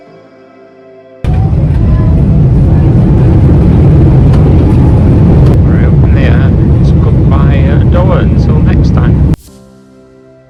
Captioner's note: engine noise